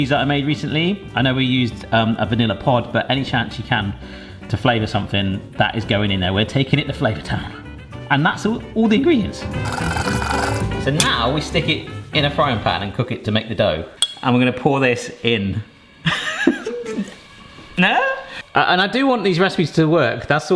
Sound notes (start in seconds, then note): 9.6 beater stirring; 17.1 laughs